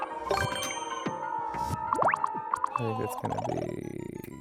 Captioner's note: coin clink